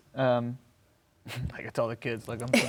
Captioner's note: laughs